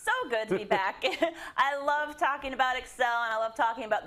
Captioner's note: laugh